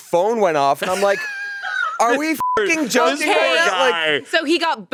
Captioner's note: beep